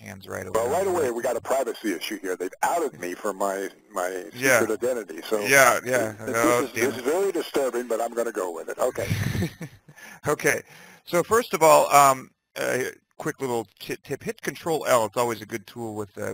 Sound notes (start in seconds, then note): 9.0 laughing